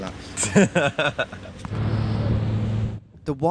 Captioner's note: laughing